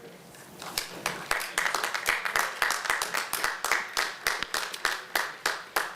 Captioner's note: applause